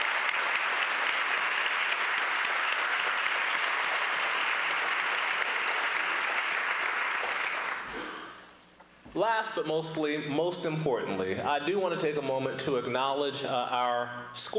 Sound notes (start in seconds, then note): 3.6 applause